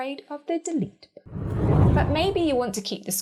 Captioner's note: air whooshing